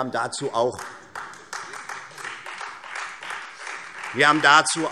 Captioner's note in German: Beifall Freie Demokraten